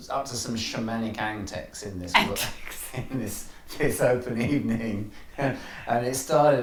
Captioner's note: laughs